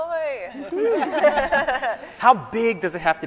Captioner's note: laughing